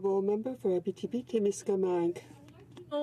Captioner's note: speaking French